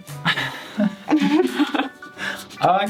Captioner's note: chuckle